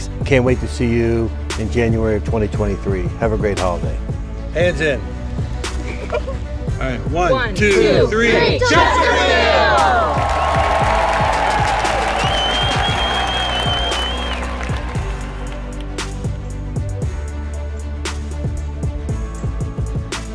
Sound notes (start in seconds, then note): 5.8 kids giggling; 9.6 crowd applauding; 11.5 crowd member whistles; 16.6 intense music continues